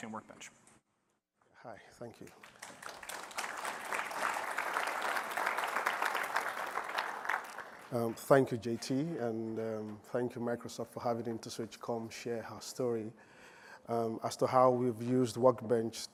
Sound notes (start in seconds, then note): 5.3 applause